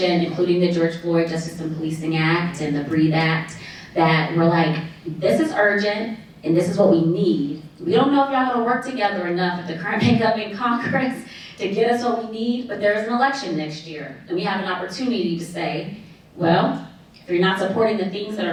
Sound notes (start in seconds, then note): none